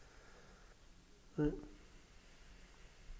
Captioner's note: quiet